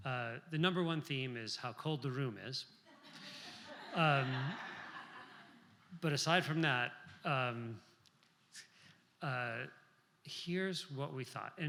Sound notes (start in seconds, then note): 2.9 laughter